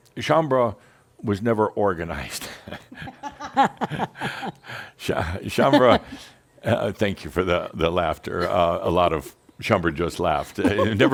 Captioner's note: they chuckle